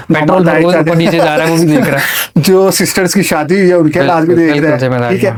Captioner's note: laughter